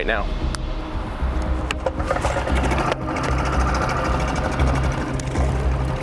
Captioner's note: somber music intensifies; boat engine roars